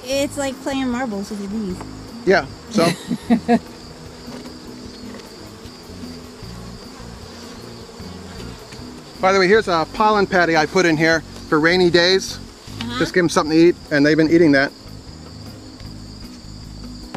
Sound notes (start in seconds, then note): 2.7 camera operator laughs; 4.7 bees buzzing